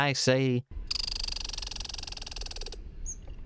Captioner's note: angry squirrel noises